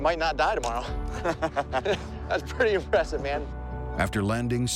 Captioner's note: laughs